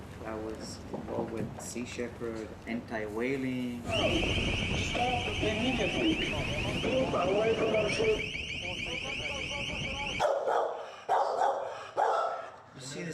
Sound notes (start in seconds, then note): 3.8 siren wails; 8.4 overlapping chattering; 11.0 dog barks